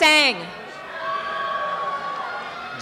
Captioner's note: cheering and applause